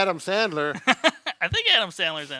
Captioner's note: laughing